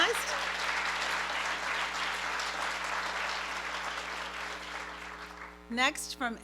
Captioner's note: applause